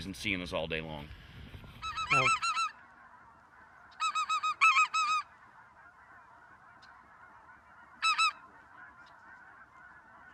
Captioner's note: duck calls